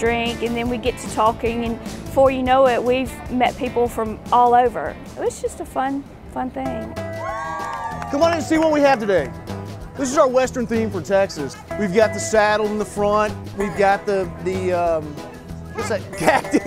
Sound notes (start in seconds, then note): 7.1 cheering